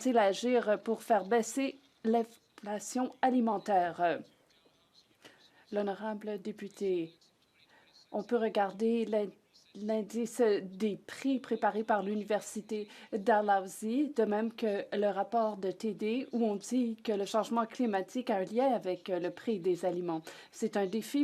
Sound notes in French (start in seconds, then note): 9.2 voix de l'interprète